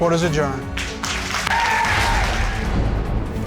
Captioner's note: audience cheers and applauds